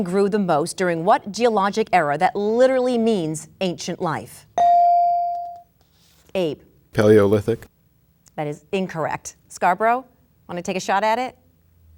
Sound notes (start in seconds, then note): 4.6 bell dinging